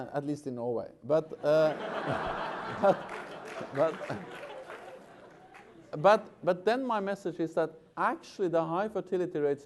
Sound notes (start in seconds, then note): 1.4 laughter